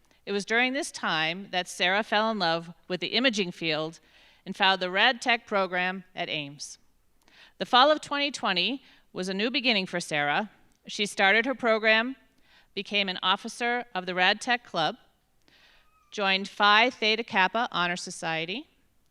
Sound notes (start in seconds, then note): none